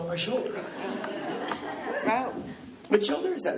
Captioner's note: laughing